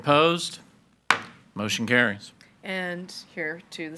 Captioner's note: hammer slamming